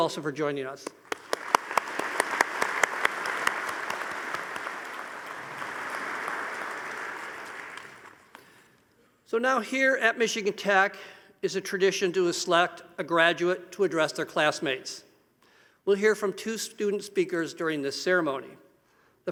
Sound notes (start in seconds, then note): 0.9 audience applauding